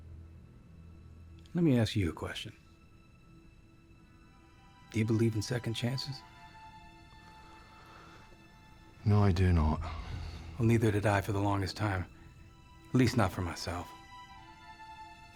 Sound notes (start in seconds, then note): 8.7 scottish accent